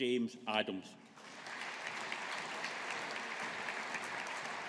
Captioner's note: audience applauding